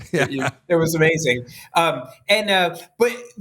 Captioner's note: laughter